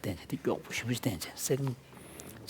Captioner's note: foreign Language